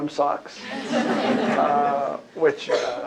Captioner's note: laughter